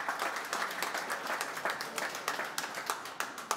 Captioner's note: applause